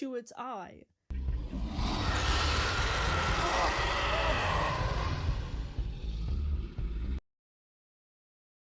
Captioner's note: artificial roaring